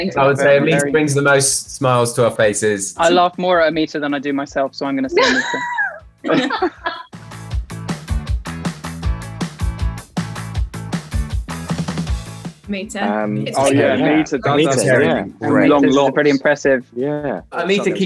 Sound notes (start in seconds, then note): 5.1 Amita laughs; 7.6 upbeat music